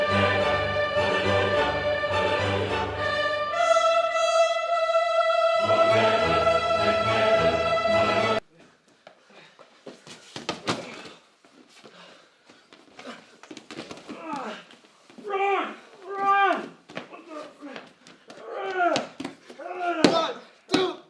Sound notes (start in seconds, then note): 10.3 body slams; 12.0 boxers grunting; 18.3 man hitting ground